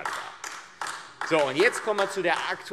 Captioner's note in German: Beifall AfD